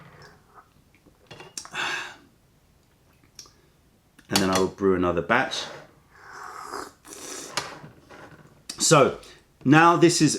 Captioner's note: sips tea